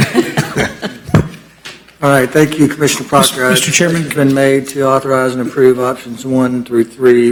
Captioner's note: laughter